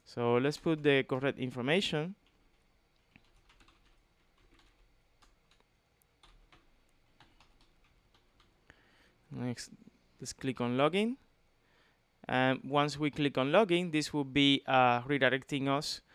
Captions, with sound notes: So let's put the correct information. [TYPING] Next, let's click on Logging. Once we click on Logging, this will be redirecting us